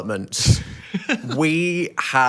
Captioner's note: laughs